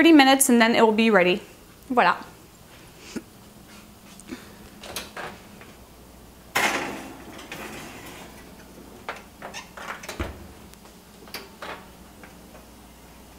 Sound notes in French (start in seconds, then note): 2.6 Kitchen Noise